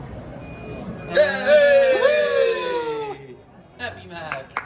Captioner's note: collective cheering